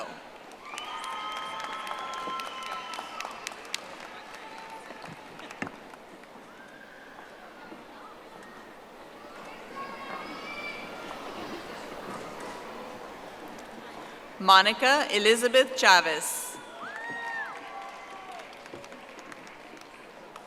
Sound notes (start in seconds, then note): 4.1 audience applauding